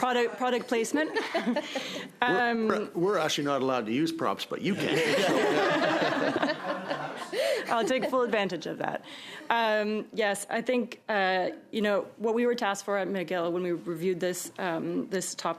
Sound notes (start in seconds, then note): 2.0 laughter